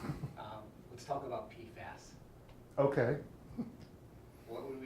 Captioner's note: chuckles